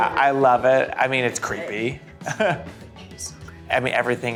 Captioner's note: laughs